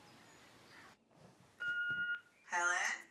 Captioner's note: machine beeping